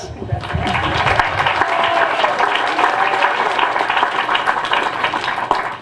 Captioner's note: applause